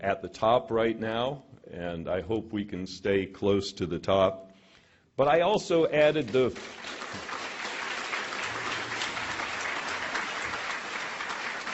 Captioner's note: cheers and applause